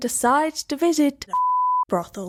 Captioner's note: beep